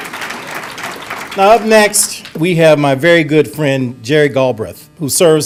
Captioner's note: applause